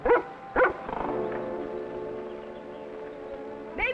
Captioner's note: dog barking